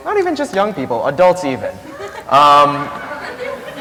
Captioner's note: laughter